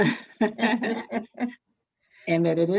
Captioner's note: both laugh